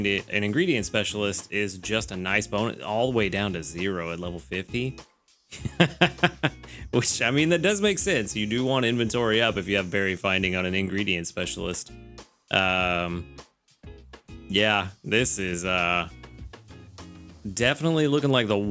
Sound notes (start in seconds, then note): 5.5 laughs